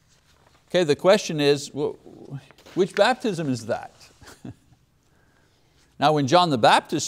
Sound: laughs

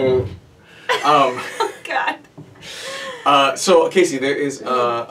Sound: laughs

